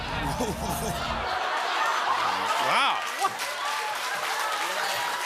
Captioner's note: cheers and applause